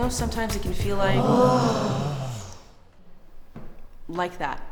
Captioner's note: classroom groans